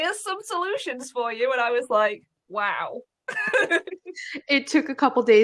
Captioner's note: laughs